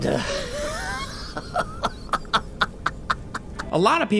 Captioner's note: Cicero chuckling